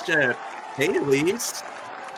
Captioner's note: audience applauding